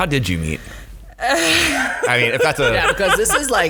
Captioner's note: laughing